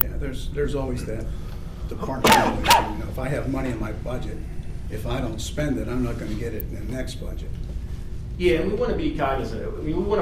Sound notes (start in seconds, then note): 2.2 coughing